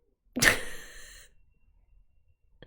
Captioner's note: laughs